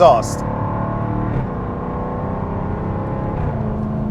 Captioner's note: engine roars